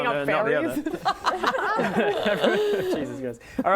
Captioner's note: laughing